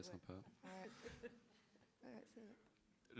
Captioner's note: is laughing